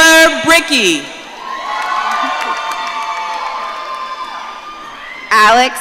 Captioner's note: audience cheering